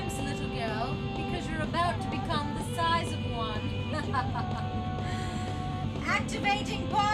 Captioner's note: laughs